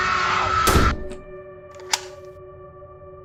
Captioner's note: door shut and lock